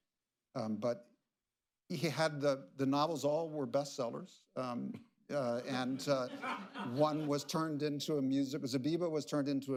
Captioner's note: laughter